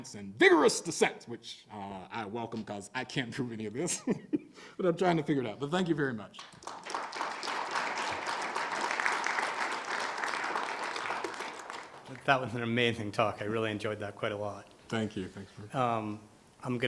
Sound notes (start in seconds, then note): 6.4 audience applauding